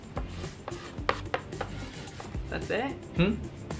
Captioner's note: writing on chalk board